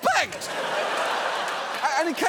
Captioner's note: studio audience laughing